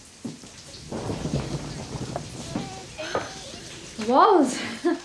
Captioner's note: thunder rumbling